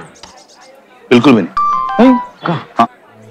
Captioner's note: Mobile notification beeps